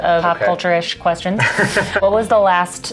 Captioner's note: laughs